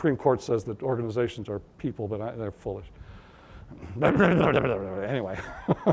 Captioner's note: grumbling; laughter